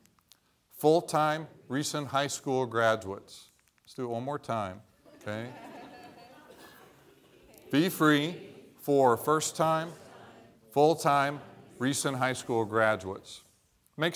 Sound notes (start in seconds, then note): 5.0 laughter